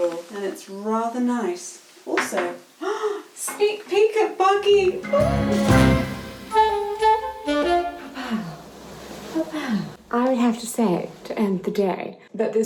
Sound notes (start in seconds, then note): 2.5 gasps; 4.7 relaxing jazz music